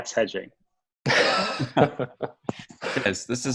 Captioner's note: laughing